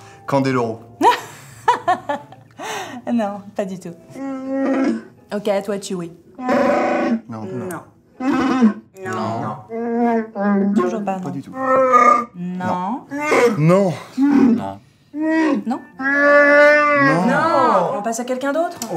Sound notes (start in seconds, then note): 2.9 laugh; 6.3 Chewbacca calling attention; 6.4 Chewbacca asking; 9.0 Chewbacca discussing